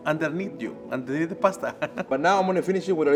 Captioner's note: laughs